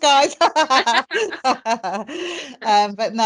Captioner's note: both laughing